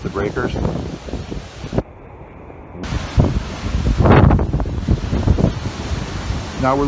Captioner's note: waves crashing; wind whistling